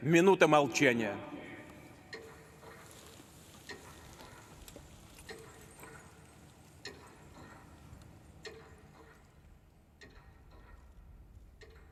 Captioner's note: minute of silence